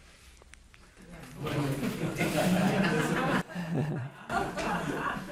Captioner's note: audience laughing